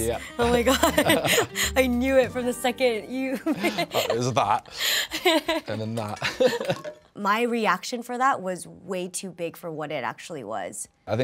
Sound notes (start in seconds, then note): 0.6 laughing; 3.4 laughing